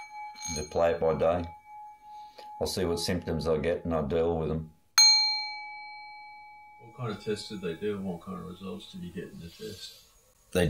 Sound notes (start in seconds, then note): 4.9 bell rings